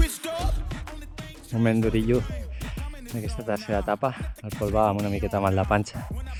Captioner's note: in catalan